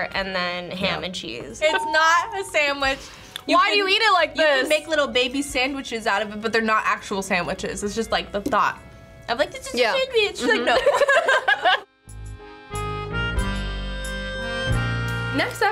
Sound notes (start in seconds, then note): 10.3 laughs; 11.8 accordion music